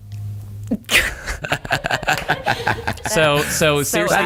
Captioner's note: laughter